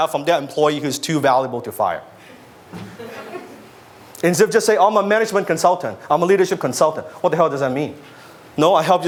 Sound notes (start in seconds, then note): 2.8 audience laughs